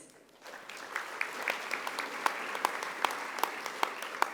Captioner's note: audience applauding